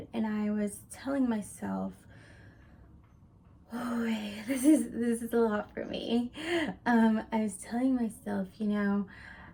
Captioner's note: takes a deep breath